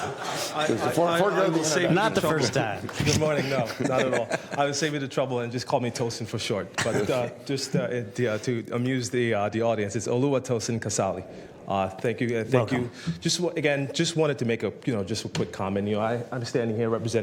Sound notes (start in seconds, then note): 6.8 laughter